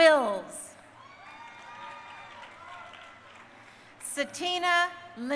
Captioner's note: crowd cheering